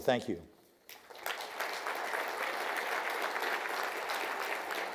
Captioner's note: audience applause